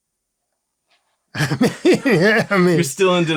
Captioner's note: laughter